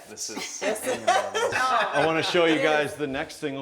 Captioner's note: laughing